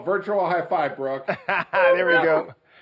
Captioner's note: laughing